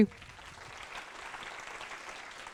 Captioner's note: applause